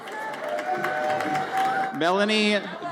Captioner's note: audience cheers